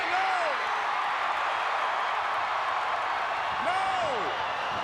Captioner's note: crowd cheering